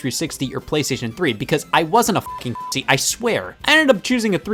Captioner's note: beep